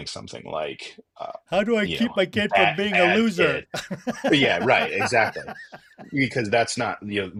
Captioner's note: laughter